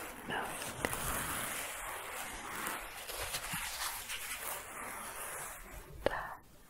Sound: scratching continues

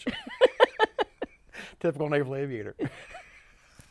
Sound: laughs

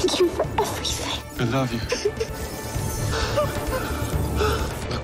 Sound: both gasp

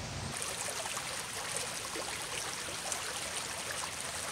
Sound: water trickling

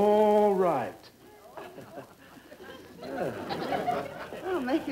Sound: audience laughing

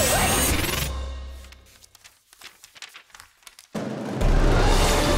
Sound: pages flipping

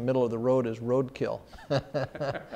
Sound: laughter

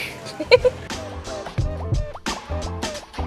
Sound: laughing; upbeat music

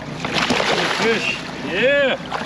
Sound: splashing

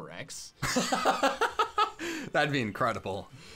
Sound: laughs

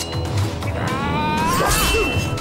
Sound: grunting

